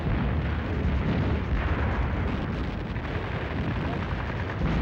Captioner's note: guns firing